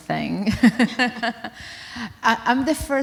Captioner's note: laughter